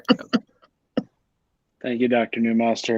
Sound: chuckles

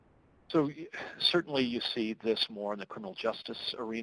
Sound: voiceover

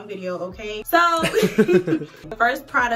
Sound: both laughing

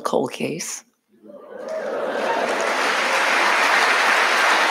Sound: audience cheering

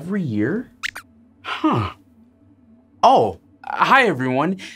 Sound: squeaks Squeaks

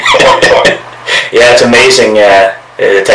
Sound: laughing erupts

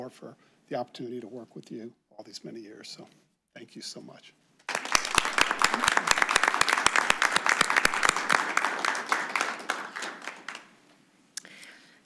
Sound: applause

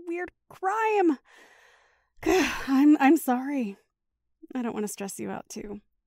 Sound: deep breath

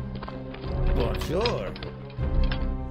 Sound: French

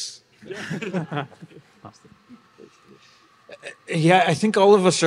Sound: panelists laugh

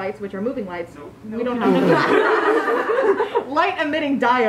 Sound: laughter

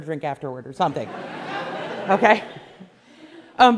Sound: class laughs

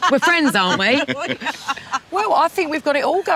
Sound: laughing

